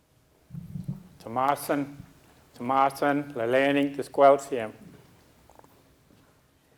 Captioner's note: speaking a local Indigenous language